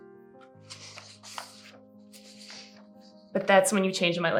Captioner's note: paper rustling